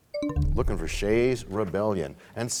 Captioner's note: bell chime, time expires